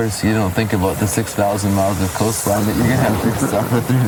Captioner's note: thunder